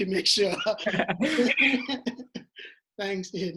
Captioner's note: laughs